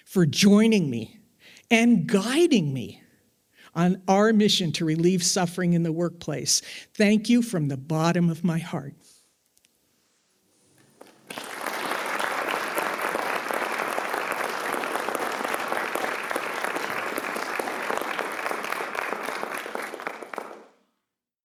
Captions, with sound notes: for joining me and guiding me on our mission to relieve suffering in the workplace. Thank you, from the bottom of my heart. (attendees applauding)